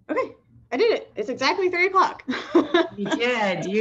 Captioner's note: laughs